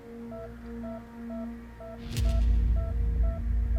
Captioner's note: heart Monitor